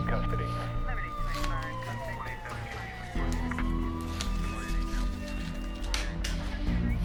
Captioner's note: sirens